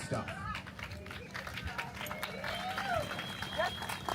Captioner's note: cheering